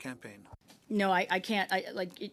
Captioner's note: speaking French